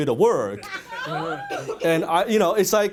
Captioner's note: audience laughter